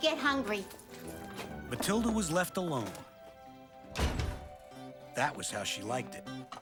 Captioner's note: door Slams